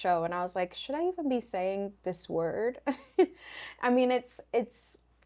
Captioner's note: laughs